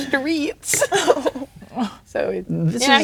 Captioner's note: players laughing